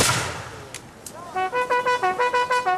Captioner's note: gun bangs; horn trumpets